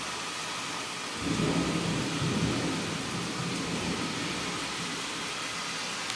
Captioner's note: thunder rumbling and rain falling